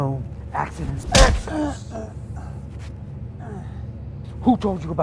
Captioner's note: punch smacking; David grunting